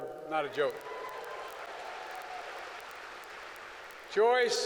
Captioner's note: applause